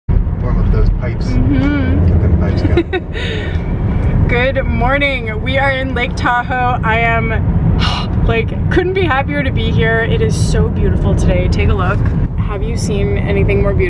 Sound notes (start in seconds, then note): 2.4 laughs; 7.1 sighs